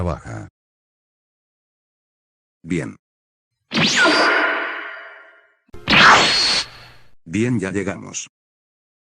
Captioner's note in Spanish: sonido de tele transportación